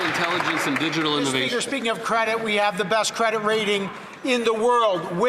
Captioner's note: some Applause